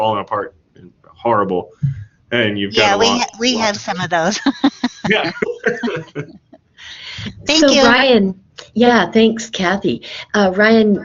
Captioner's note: laughs